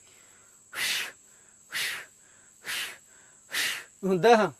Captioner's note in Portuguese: imitando respiração forçada, com barulho